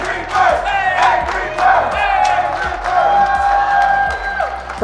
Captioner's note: Crowd chants Angry Bird